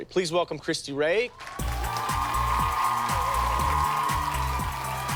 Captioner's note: cheers and applause